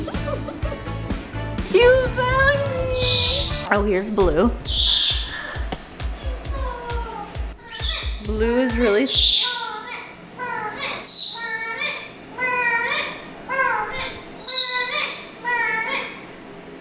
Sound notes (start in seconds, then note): 0.0 laughs; 10.4 Merlin chirps repeatedly